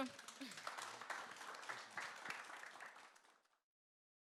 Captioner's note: audience applauding